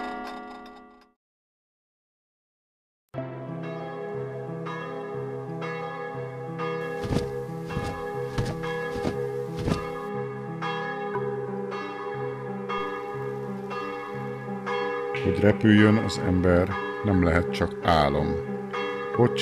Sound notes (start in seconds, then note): 6.9 flutter of wings